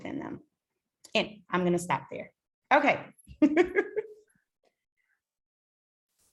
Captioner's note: laughs